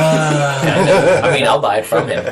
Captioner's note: sigh